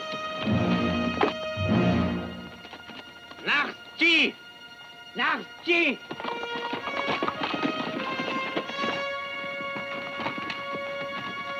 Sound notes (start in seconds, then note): 3.5 Delgadito speaking foreign language; 6.1 dramatic music